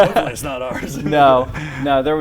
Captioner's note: laughter